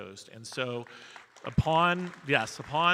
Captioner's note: audience applauding